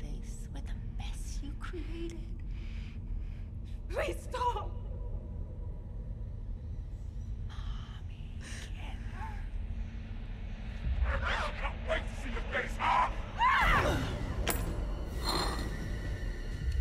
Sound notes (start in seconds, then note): 13.4 Lily screams